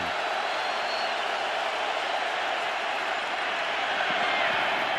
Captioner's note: cheering